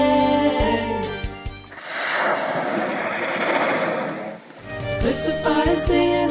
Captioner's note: whale spouts